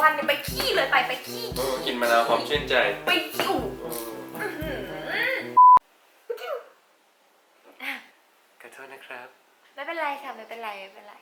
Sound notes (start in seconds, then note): 6.3 sneezing